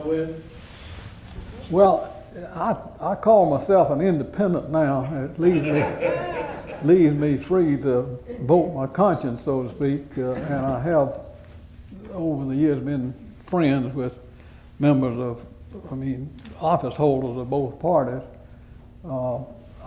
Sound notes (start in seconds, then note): 5.4 laughter